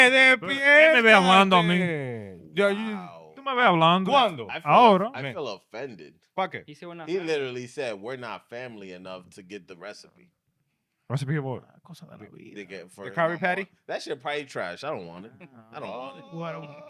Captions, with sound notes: (Speaking In Foreign Language) Yo, you. (Speaking In Foreign Language) I feel offended. Oh, bro. I feel offended. Fuck it. He literally said we're not family enough to get the recipe. Recipe or what? The curry patty? That's your pie trash. I don't want it. I don't want it.